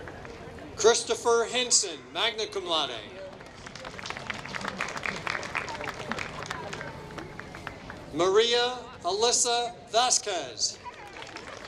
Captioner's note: applause